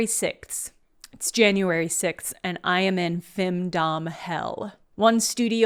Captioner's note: with a voice like she’s in femdom hell